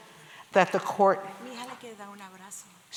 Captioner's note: spanish